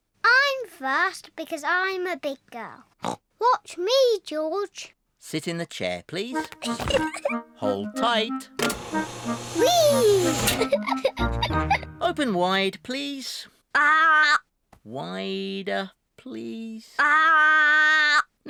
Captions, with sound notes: I'm first because I'm a big girl. (SNORTS) Watch me, George. -Sit in the chair, please. -(GIGGLES) Hold tight. Wheee! (GIGGLES) -Open wide, please. -Aaah! -Wider, please. -Aaah!